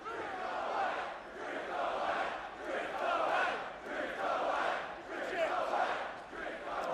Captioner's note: fans chanting